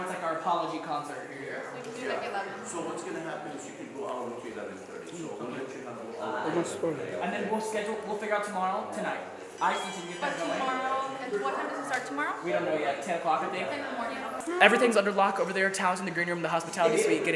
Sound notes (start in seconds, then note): 9.6 phone rings